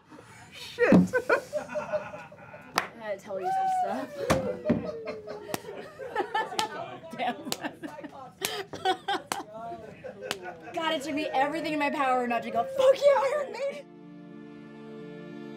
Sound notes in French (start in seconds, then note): 1.0 rires; 4.1 rires; 9.0 applaudissements lents